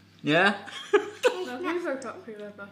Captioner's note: laughs